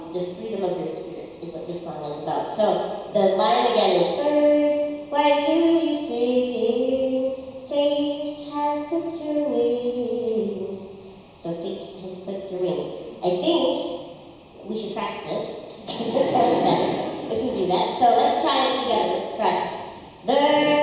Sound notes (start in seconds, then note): 15.8 audience laughter; 20.4 audience singing